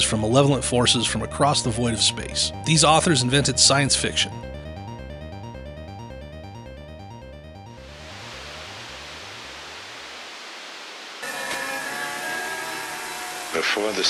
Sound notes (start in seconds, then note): 5.1 tense music; 7.8 static crackles; 11.8 tense music